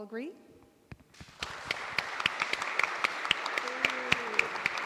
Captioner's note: applause